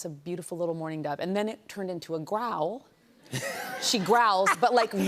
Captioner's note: laughter